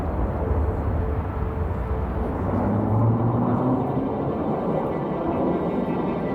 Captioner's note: cars driving on the highway